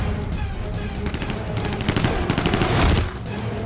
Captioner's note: gunfire